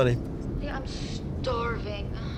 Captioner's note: on phone